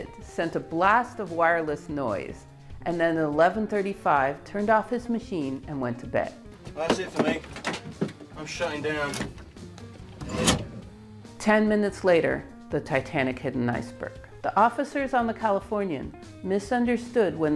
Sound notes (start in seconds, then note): 8.3 indistinct chatting